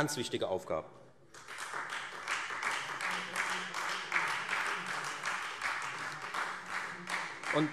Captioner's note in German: Beifall Freie Demokraten